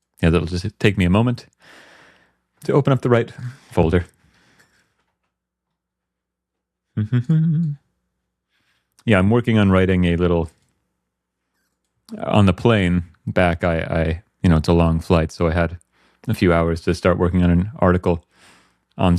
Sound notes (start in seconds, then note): 7.0 humming